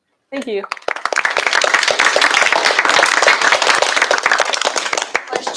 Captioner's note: applause